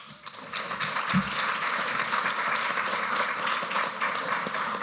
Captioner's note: applause